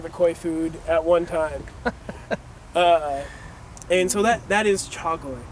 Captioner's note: laugh